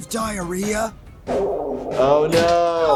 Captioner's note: Blaineley's tummy growls